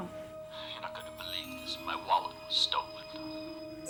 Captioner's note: on phone